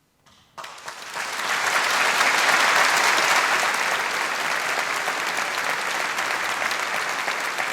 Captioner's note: applause